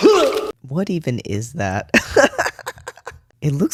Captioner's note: laugh